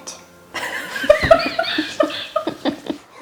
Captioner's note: laughing